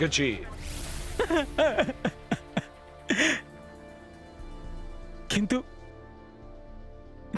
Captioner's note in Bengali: সশব্দ হাসি